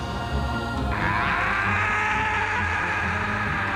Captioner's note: yelling